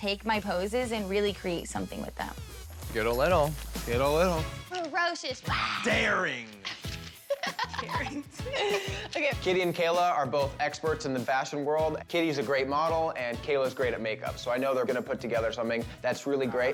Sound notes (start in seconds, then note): 4.0 roars; 5.8 laughs